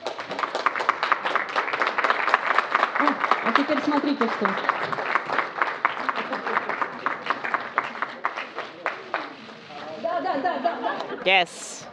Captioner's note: applause